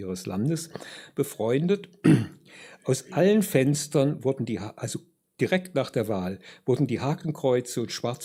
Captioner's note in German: räuspern